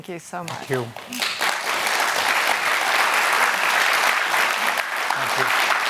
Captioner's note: applause